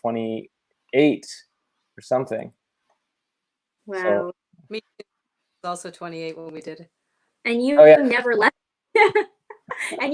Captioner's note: laughter